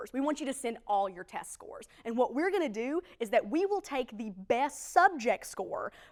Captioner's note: none